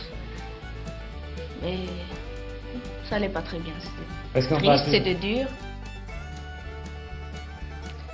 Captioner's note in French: Le journaliste parle en fond